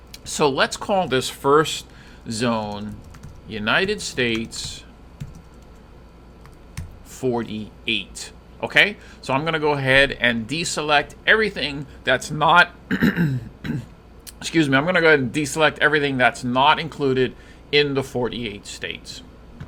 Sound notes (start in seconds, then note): 12.9 clearing throat